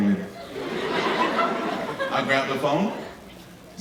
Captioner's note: audience laughing